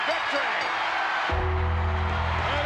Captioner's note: crowd cheers; bell rings; bell tolls